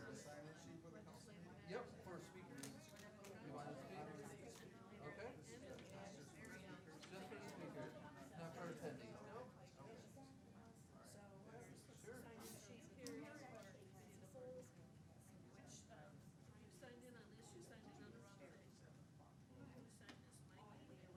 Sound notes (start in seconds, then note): 3.6 chattering amongst public